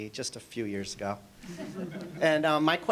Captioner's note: audience chuckling